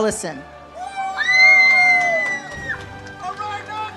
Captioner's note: audience cheers